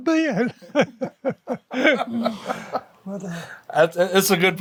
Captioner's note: laughing